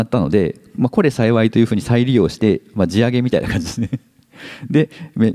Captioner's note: chuckles